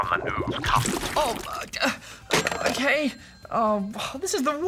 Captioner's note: splutters